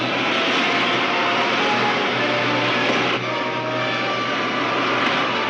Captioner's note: spacecraft engines roaring